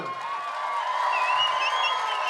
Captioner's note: cheering, applause